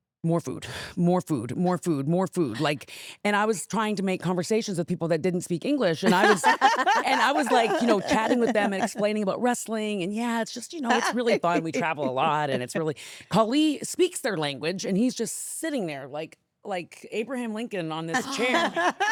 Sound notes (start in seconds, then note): 6.0 laughing